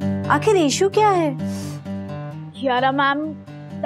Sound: gasps

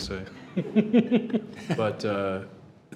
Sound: all chuckle

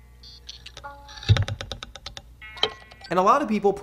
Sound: plinking

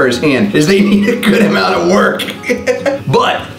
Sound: laughs

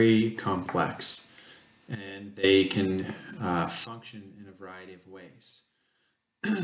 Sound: cough

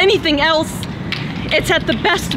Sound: clapping in the background

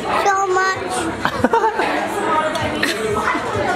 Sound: laughing

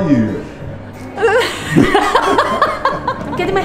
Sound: laughs

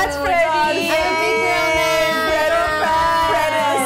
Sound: cheers

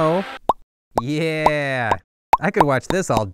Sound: ping pong balls popping

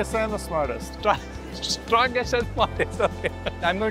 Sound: laughs

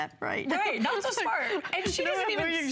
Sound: laughter

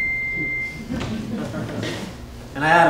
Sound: electronic beeping; audience laughing

